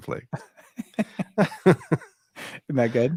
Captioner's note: both laughing